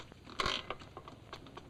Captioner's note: chair creaks